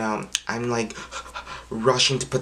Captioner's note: huffing and puffing